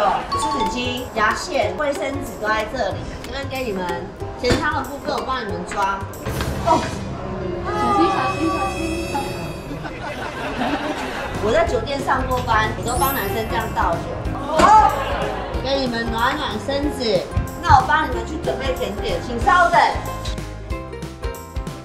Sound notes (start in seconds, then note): 6.2 bang